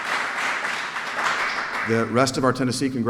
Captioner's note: applause